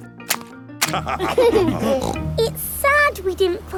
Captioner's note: laughter